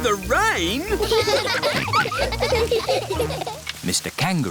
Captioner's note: all laughing